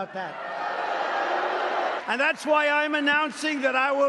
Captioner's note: applause